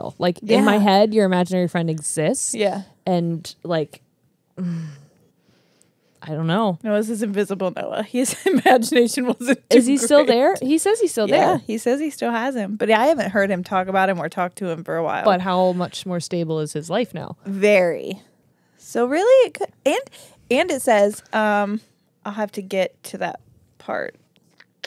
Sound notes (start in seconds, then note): 4.6 exhales loudly; 9.4 laughing